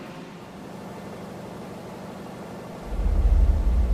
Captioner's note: loud mining machinery